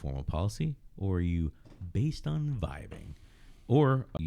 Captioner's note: uh